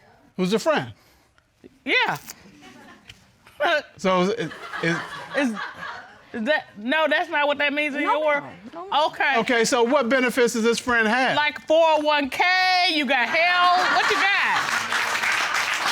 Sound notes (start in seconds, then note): 3.4 scoffs; 13.3 audience applauds